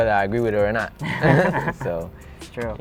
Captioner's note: laughs